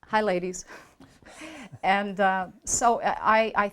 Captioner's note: chuckles